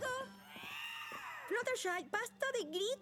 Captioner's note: shriek